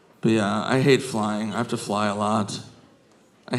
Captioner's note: none